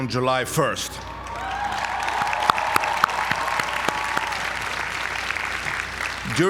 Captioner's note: applause